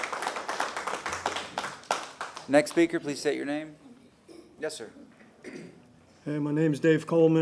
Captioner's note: applause